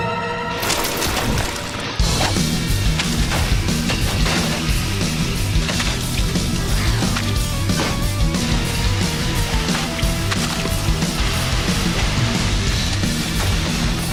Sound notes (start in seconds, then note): 1.8 driving rock music; 5.5 constant wet splats